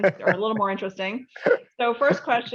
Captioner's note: laughs